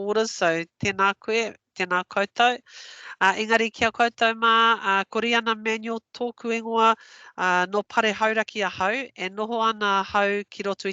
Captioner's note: non-english speech